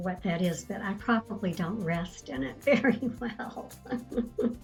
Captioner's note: laughing